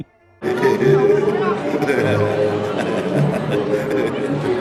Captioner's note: goofy laughter